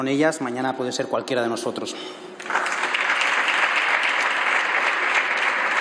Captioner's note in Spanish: Aplausos